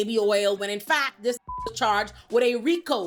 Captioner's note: beep